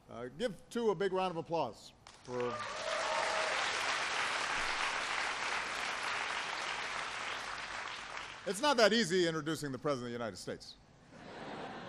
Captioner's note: applause; laughter